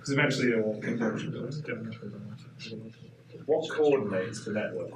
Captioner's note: audience mumbling